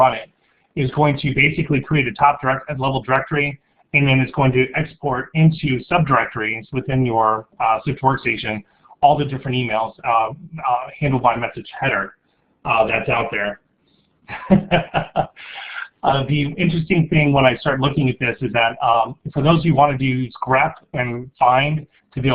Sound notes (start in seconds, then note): 14.3 laughing